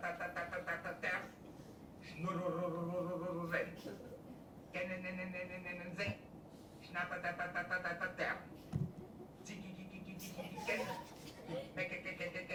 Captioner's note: students laugh